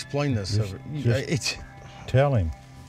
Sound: laughs

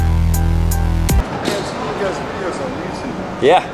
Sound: male Voice

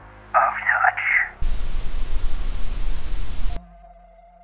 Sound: static noise

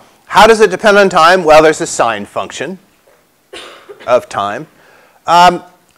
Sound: cough

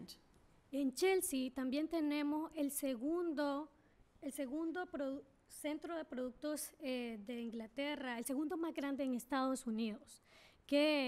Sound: speaking spanish

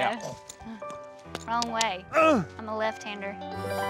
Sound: grunts

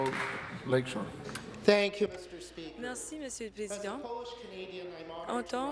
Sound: applause

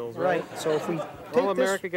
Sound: audience laughing

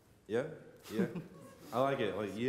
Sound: laughs

